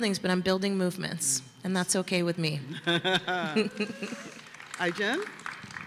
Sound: applause

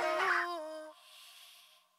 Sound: inhaling

